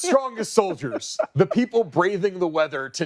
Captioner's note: laughter